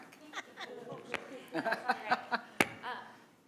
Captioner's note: attendees laughing and chatting